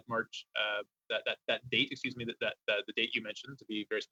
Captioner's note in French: voix de l'interprète